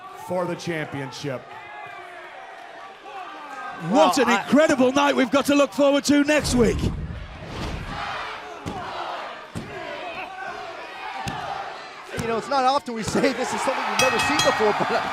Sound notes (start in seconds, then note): 11.2 crowd chatter